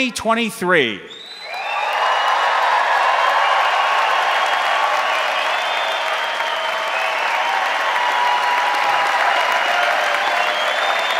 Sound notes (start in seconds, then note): 1.2 crowd cheering; 1.3 crowd applauding